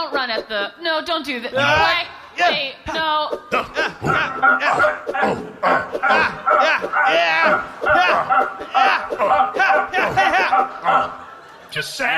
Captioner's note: grunty attacky sounds